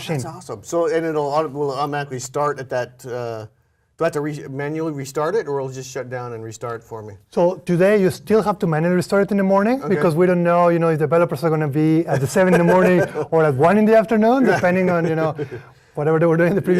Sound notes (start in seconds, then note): 14.7 laugh